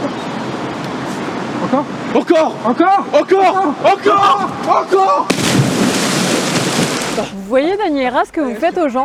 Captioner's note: splash